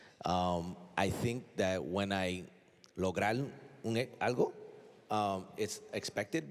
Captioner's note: speaking spanish